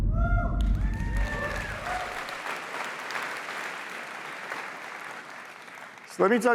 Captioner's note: applause